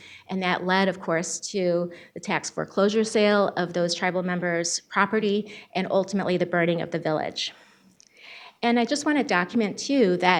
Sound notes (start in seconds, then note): none